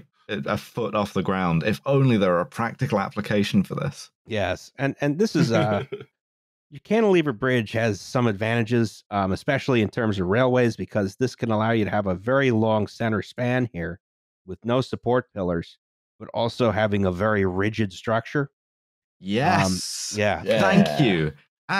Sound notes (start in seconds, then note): 5.2 laughs